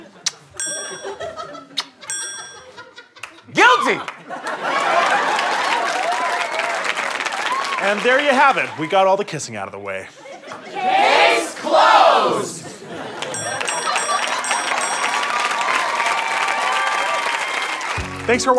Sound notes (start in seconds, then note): 0.2 kiss; 1.7 kiss; 3.9 audience applause; 13.3 dinging; 16.7 audience applause